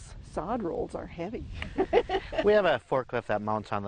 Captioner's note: laughs